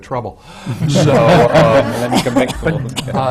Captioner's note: laughter